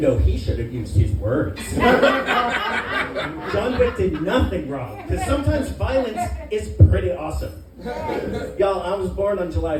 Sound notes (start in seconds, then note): 1.6 laughter